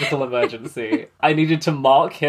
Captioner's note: laughs